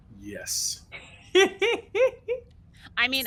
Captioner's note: laughing